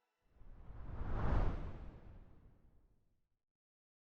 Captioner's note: air whirring